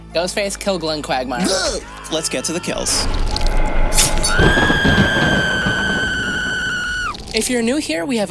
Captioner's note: Quagmire death sound